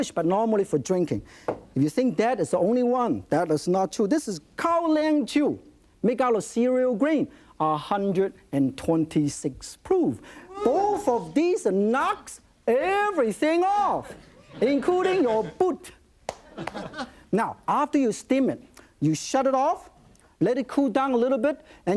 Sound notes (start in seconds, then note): 10.5 audience oohs; 16.4 light laughter